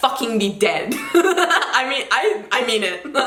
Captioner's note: laughs